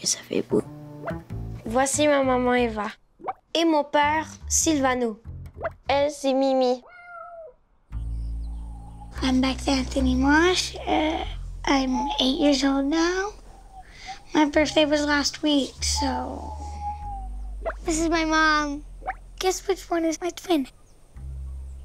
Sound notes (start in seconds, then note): 6.8 Mimi meows